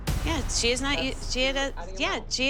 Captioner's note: stammers